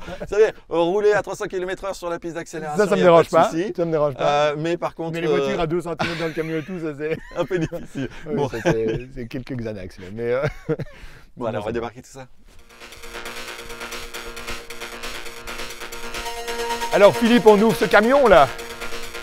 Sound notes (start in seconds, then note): 8.4 laughter